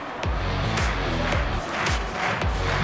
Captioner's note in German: Rhythmisches Klatschen